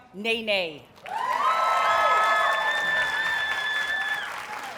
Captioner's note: audience cheers and applauds